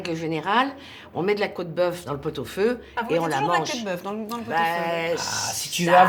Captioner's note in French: grognement